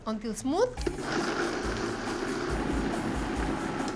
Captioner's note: whirring